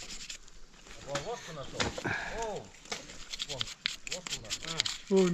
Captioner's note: brush swooshing